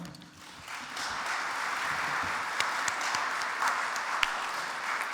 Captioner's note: audience applauds